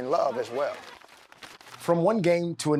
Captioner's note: paper rustles